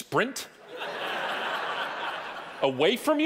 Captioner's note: audience laughing